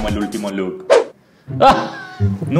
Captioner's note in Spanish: se rie